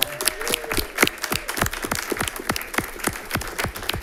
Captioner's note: all clapping